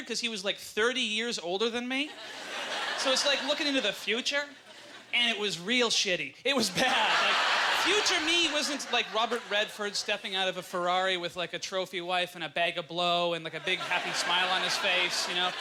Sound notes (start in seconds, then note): 2.0 audience laughter; 6.6 audience laughter